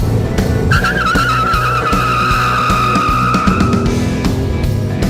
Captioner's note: screeching; rock music